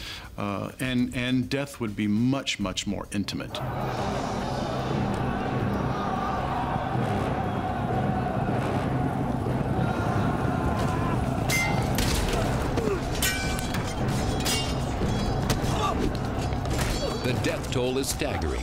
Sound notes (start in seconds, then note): 3.0 battle cry; 9.8 swords clanging